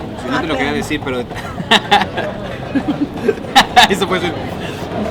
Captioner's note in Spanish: Riéndose